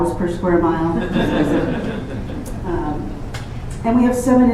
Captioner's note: laughter